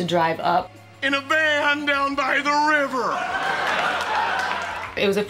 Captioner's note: audience laughing